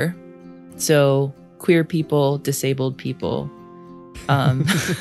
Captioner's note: laughs